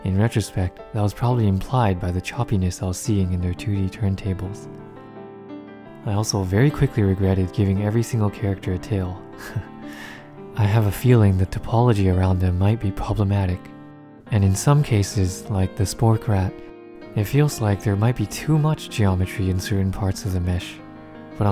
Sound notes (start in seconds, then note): 9.4 laughs